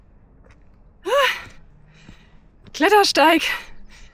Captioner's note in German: Lautes Seufzen